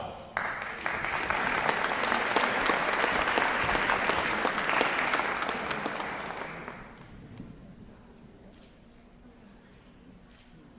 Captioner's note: applause